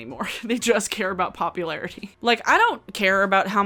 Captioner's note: laughs; laughs